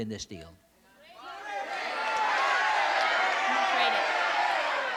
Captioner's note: shouting